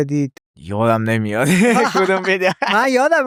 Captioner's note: laughs